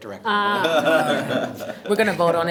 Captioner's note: everyone laughs